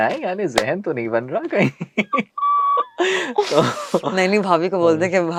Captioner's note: laughs